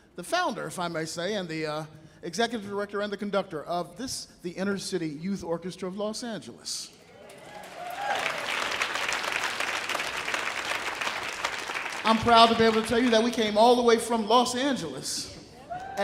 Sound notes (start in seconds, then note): 7.2 audience cheering; 7.2 audience applauding